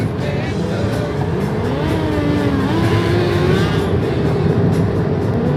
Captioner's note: engine roaring